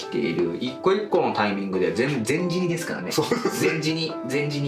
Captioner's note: laughs